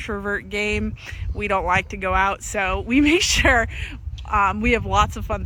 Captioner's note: laughs